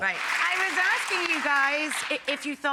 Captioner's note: audience clapping